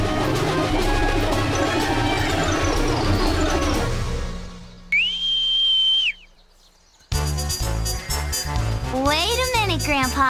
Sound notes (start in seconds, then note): 4.7 whistling